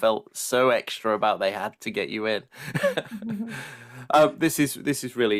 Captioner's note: laughs